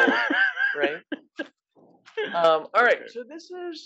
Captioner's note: laugh